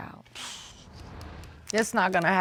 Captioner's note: sighs